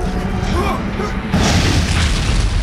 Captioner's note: loud crash